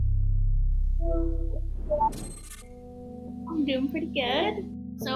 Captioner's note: mechanical beeps